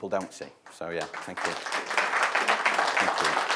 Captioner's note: audience applauding